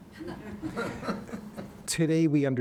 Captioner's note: audience laughing